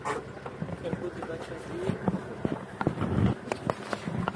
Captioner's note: car noises